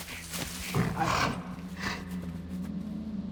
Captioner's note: bear sounds